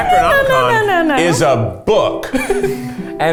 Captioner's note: laughs